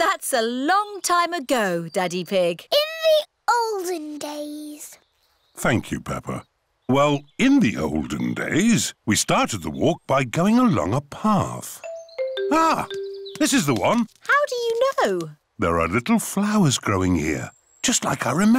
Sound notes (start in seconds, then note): none